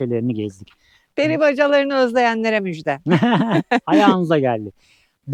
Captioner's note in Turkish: kahkaha